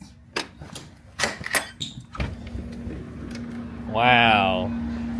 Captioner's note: lock clicks